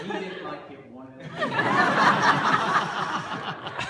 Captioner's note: laughter